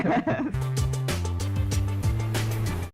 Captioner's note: laughing together